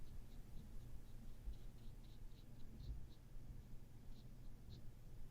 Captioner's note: soft short brush strokes